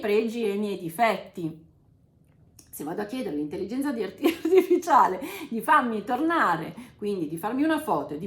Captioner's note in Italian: risate